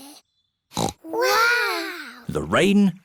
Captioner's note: peppa snorts